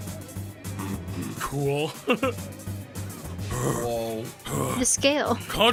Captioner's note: laughs